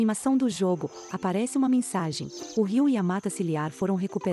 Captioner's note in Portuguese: Pássaros